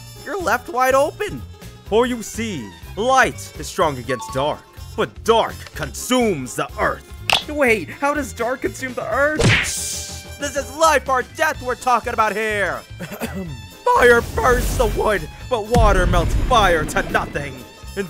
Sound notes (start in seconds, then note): 9.4 punch Sound Effect; 13.0 coughs